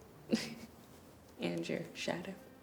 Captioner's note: Dana laughing